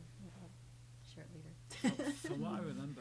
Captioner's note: laughs